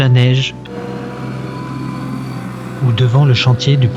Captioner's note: noise of construction vehicle